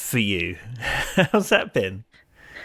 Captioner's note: laughs